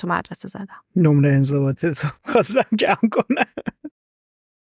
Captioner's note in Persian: خنده